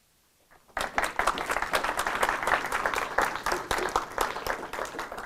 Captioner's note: applause